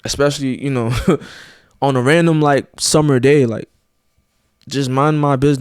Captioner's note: chuckles